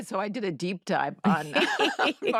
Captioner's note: all laugh